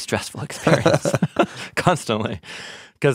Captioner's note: both laughing